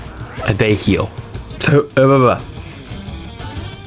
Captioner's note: mating Call